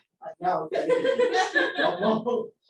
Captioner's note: laughter